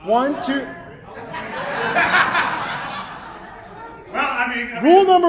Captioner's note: audience laughing; laughing